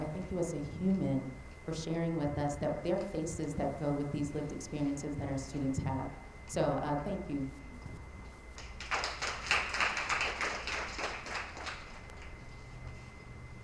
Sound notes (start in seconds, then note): 8.6 attendees applauding